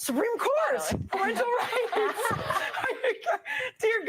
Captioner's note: laughter